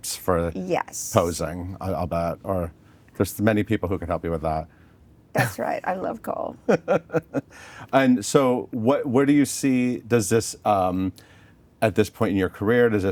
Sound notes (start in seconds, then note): 6.6 laughing